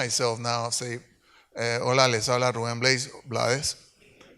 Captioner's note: speaks in Spanish